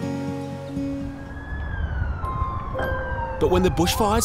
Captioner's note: helicopter blades whirring; siren wails